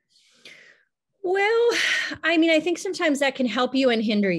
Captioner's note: sighs